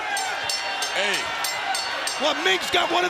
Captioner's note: bell ringing